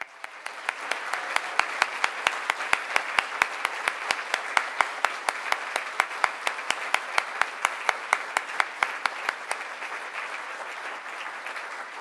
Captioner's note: applause